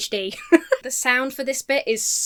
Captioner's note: laughs